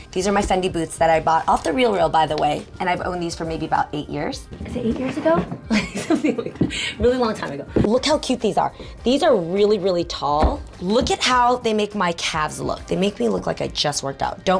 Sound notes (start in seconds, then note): 5.6 laughing